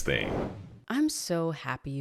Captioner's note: graphic swooshing